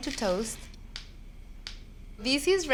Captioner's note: seeds popping